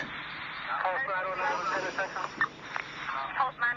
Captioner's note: inhale